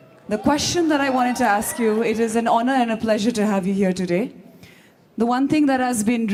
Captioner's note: laughs